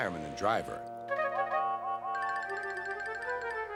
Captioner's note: whistles